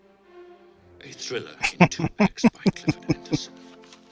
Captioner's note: laughing